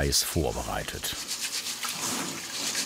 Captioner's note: splashing water